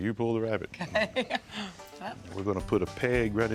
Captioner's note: chuckling